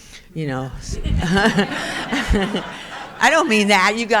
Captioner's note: crowd laughing